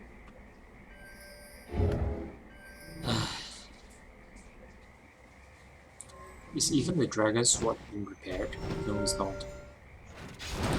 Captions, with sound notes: *Sigh* is even the dragon sword being repaired? No, it's not